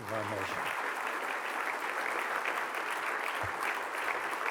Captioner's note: applause